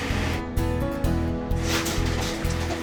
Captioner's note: truck rattling, boxes tumbling